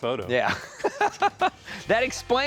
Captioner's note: laughs